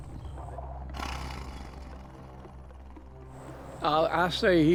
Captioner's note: Bigfoot growling